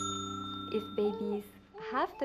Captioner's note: ding